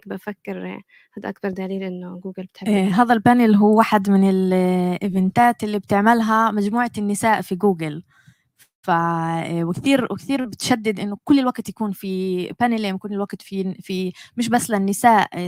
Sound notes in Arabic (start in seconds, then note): 3.6 لغة أجنبية; 12.2 لغة أجنبية